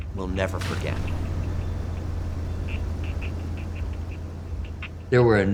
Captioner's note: airplane engine whirring